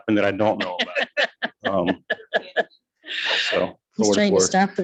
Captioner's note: people laugh